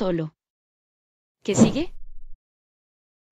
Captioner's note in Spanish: FX - Whoosh - 03